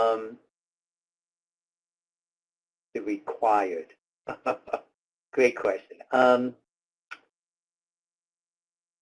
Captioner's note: laughing